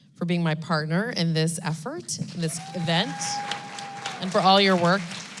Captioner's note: applause